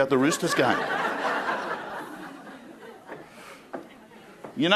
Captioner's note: crowd laughing